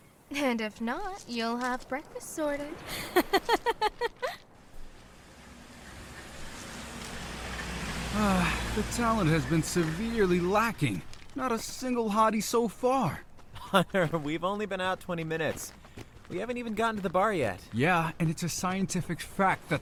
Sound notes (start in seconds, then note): 2.8 laughs